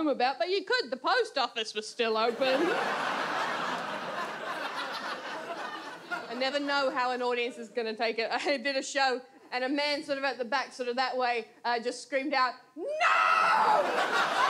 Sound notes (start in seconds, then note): 2.3 audience laughs